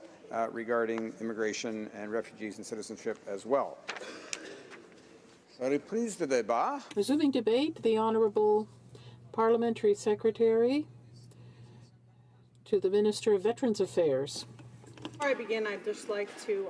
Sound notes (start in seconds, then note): 11.9 speaking in french